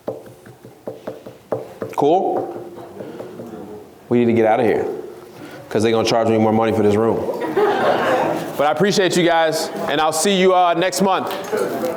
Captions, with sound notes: Cool? We need to get out of here, 'cause they're gonna charge me more money for this room. (laughs) but I appreciate you guys and I'll see you next month.